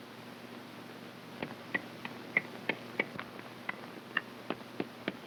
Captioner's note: hammer tapping